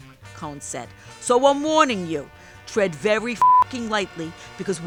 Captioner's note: beep